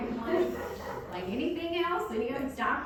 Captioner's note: audience laughing